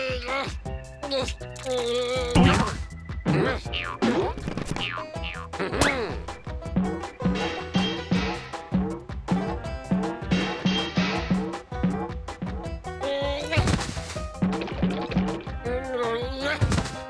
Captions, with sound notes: RRR! UGH! UNH! (boinging) HMM HMM! (pipe clanging) NNH UGH! NNH UGH!